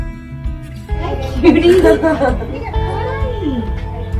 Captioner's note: laughs